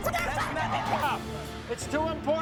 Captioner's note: screaming